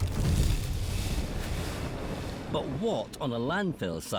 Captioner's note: flames whooshing